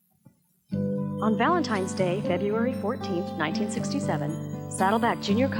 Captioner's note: voiceover